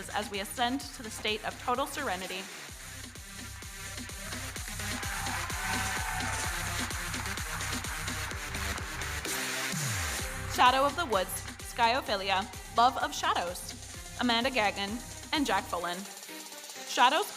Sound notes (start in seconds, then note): 4.6 audience cheering; 8.9 electronic dance music